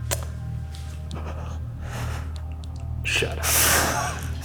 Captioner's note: whimpers; laughing